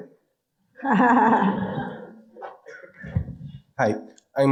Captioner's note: audience laughing